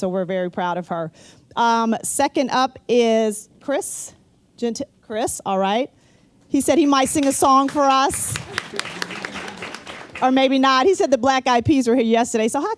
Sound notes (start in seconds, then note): 7.0 applause